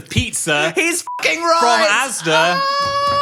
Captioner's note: beep